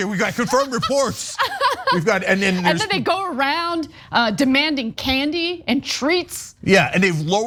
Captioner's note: laugh